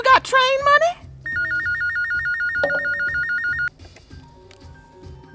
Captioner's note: telephone ringing